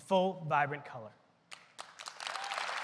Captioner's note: applause